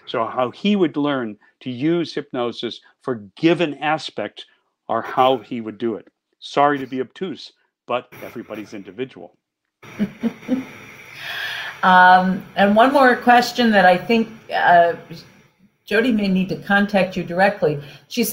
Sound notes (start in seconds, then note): 9.9 chuckles